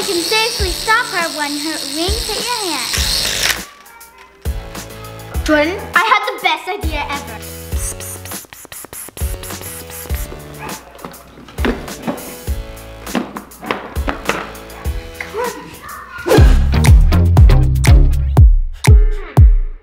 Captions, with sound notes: And you can safely stop her when her wings hit your hand. - Jordyn, I have the best idea ever. [Fake whispering] Come on. [Energetic Instrumental Music]